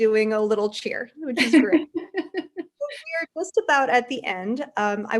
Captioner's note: laughs